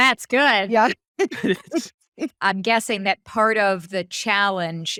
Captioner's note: laughing